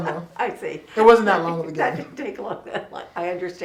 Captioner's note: laughs